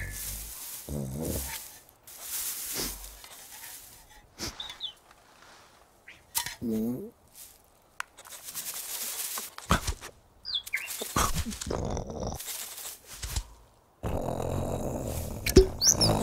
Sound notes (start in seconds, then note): 0.2 leaves rustling; 2.1 sniffing; 6.6 curious growling; 11.5 growling